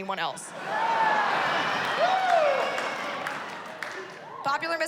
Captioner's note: cheering